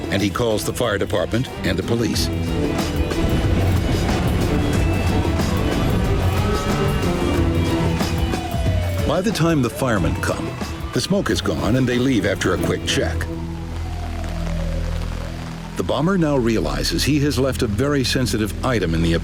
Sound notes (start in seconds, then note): 4.4 distant siren wails; 4.4 upbeat music